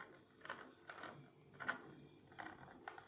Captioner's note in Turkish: volan makara sesi